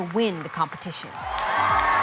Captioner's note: cheers and applause